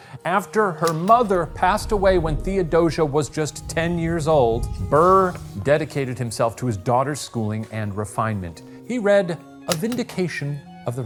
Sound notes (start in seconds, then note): 0.8 projector clicking; 1.0 screen whooshing softly; 9.7 projector clicking